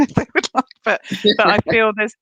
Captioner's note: laughs